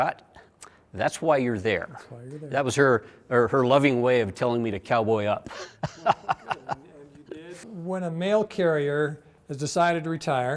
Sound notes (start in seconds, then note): 5.4 laughs